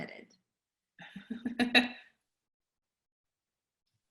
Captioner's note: laughs